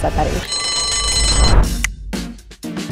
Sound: bell ringing; upbeat music

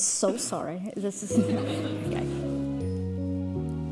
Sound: audience laughs; light music

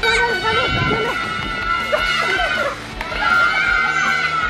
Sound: children shouting

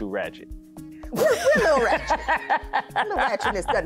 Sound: laughing

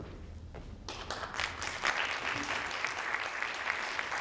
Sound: audience claps

